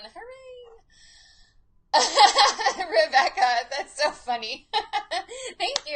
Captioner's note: laughs